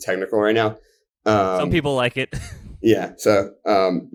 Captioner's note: laughs